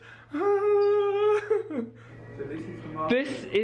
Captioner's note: cries